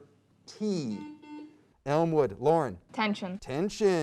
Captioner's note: beep